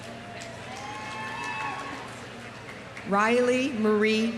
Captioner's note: audience applauding; audience cheering